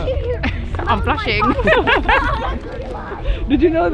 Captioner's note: laughing